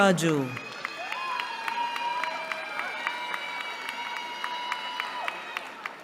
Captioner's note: cheering